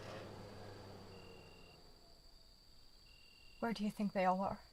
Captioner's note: insects chirping